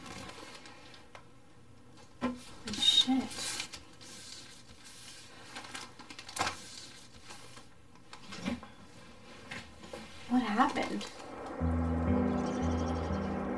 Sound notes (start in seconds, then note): 0.1 rustling sound; 4.0 rustling sound; 11.2 piano music playing